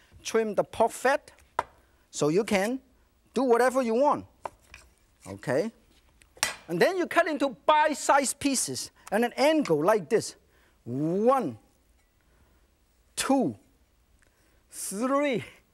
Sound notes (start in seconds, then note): none